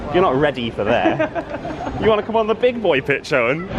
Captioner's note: laughing